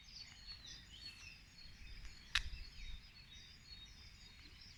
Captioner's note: birdsong